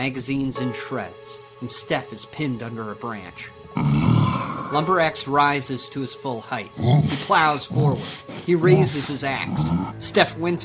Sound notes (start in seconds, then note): 3.6 Lumber Axe groaning